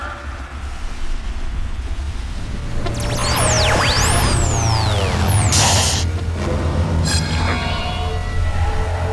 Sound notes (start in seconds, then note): 2.6 static; 2.8 airplane engine whirring